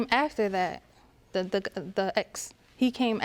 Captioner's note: stammers